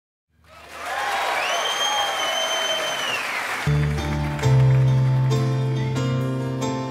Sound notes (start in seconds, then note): 0.4 audience cheering and applauding; 3.6 upbeat piano music